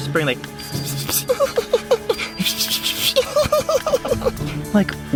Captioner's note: whispering noises